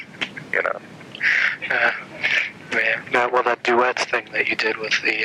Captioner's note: laughter